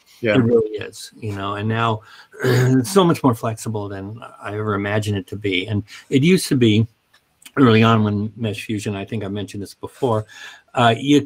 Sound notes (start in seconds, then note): 2.3 clears throat